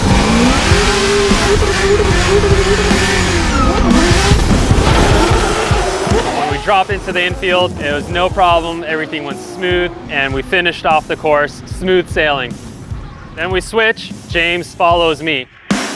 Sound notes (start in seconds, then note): 0.0 car engines roar; 0.3 dramatic music; 2.7 car engines roar